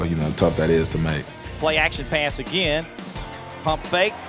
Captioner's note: voiceover